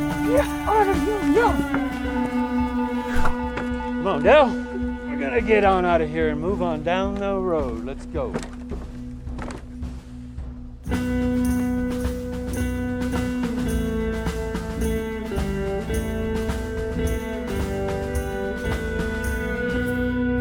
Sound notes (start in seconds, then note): 1.3 tense discordant music; 3.0 shovel swooshing; 7.6 footfalls clunking